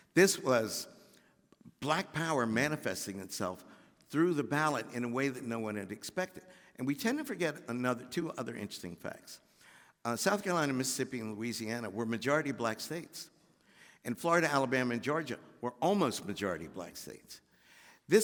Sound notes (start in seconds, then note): none